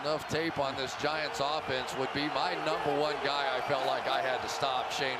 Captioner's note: cheering